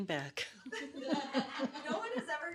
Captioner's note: woman laughing